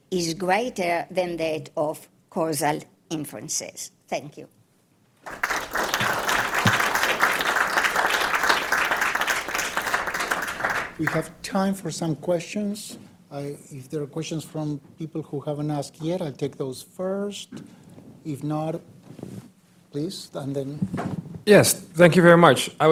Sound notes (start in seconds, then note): 5.2 audience applauds